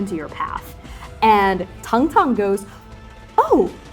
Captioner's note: exasperated sighing